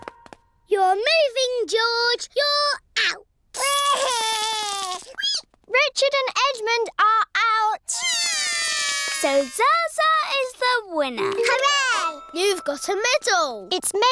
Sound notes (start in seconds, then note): 0.2 music stops; 3.6 cries; 8.0 both cry